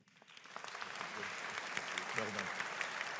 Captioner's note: audience applauding